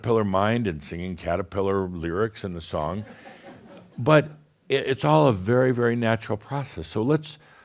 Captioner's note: a few chuckles